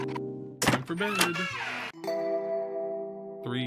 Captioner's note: door creaks